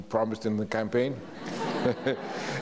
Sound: audience laughs; chuckles

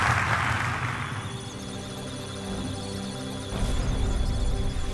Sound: applause; electronic sounds of data; musical tones

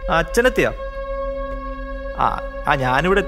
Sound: siren getting louder

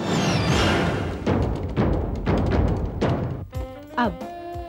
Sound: keyboard clacking

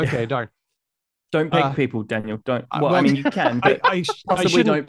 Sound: laughs

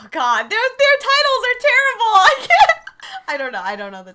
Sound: laughs

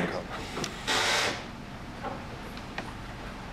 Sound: machine noise

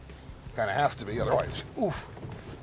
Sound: grunting

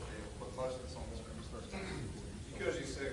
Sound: voice lowers

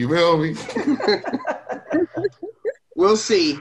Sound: multiple speakers laugh

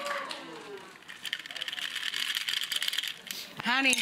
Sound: ice clanking

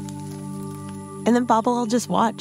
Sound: crunch!

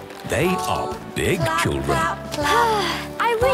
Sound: Belinda sighing

